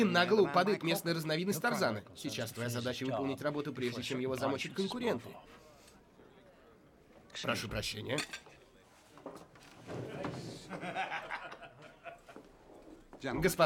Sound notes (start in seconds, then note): 6.2 sniffs; 8.0 silvware clangs; 10.5 laughter